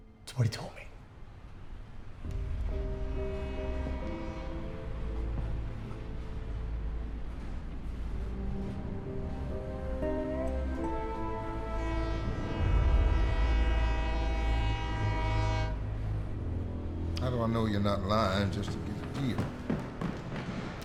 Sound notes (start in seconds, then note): 2.3 train horn, slow footsteps; 6.8 train horn